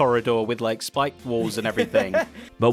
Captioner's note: laughs